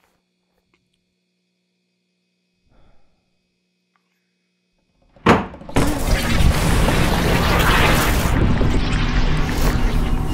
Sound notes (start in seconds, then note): 5.2 door slams open; 6.0 distorted sounds